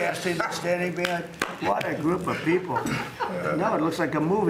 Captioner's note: laughter